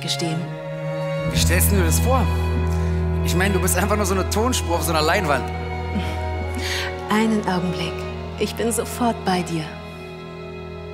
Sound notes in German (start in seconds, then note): 7.1 lachen